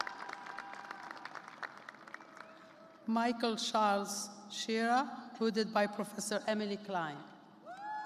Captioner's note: cheers and applause